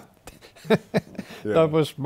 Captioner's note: laughter